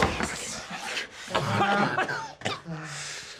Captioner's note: coughing